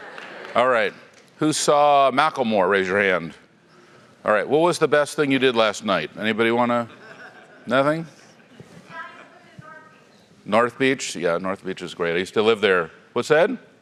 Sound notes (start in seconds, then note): 6.8 laugh